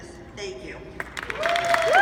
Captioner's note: applause